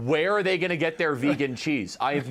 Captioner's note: laughter